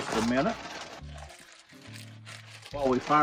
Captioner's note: plastic bag crinkling